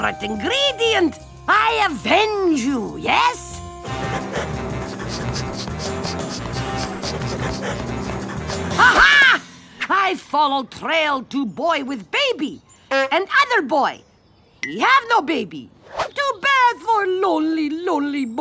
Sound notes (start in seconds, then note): 3.9 sniffing